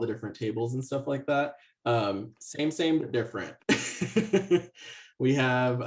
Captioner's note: laughs